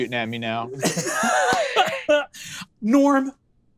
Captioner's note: laughs